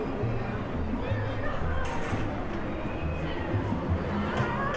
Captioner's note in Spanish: Sonido ambiente niños jugando